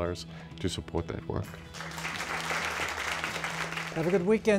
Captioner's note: applause